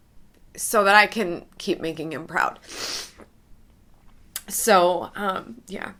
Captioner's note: sniffs